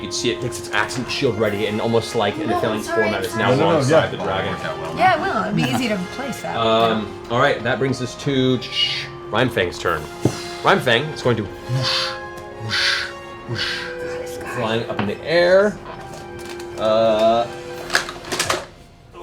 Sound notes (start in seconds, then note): 11.7 flapping